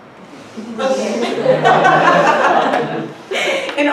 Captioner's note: laughter